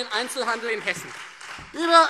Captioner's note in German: Beifall Freie Demokraten